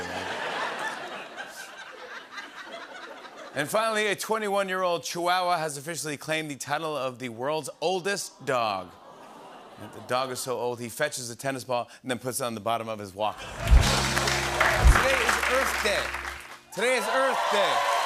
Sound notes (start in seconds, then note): 0.0 laughter; 13.4 applause